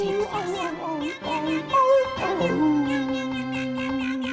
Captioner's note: dog and cat singing